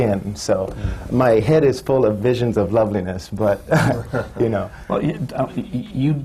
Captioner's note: laughs